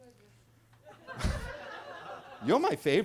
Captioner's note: attendees laughing